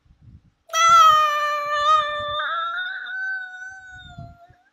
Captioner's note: crying